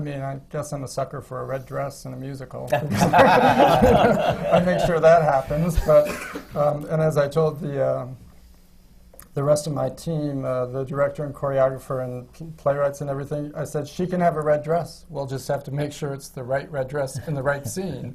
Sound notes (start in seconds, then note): 2.7 laughter